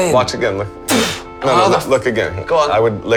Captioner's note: loud Whooshing